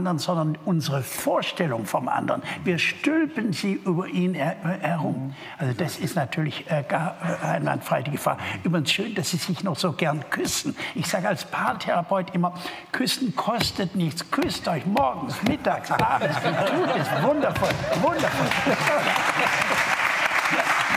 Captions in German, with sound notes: sondern unsere Vorstellung vom anderen." Wir stülpen sie über ihn herum. Das ist natürlich allgemein die Gefahr. Dass sie sich noch so gerne küssen. Ich sag als Paartherapeut immer: Küssen kostet nichts. Küsst euch morgens, mittags, abends. Tut es. Wundervoll. Wundervoll. (Er lacht.)